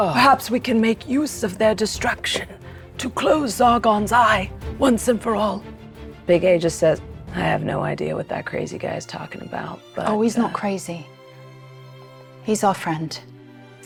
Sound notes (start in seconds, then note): none